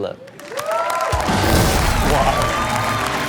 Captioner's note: audience cheering and applauding; rock music